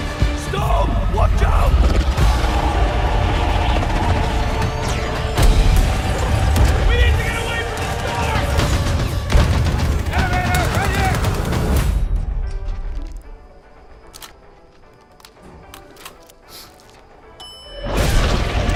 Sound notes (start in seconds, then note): 7.8 soldiers yelling; 12.2 elevator music playing; 17.4 elevator door chimes